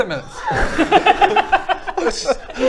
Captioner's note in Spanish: risas